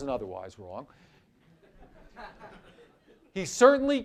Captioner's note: laughter